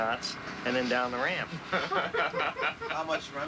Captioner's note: laughter